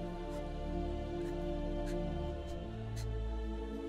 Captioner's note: sobbing